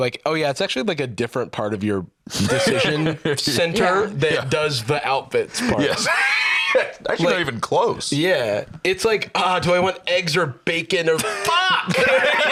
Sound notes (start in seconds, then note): 5.5 laughs; 11.2 both laughing